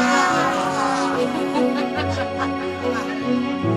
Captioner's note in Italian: le donne ridono